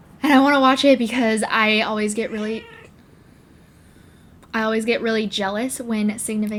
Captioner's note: cat meowing